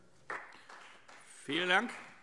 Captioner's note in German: Beifall Freie Demokraten